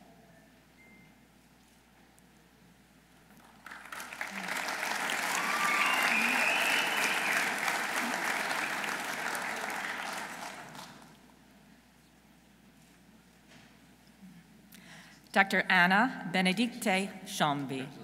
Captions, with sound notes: (audience applauding) Dr. Anna Bénédicte Chamby.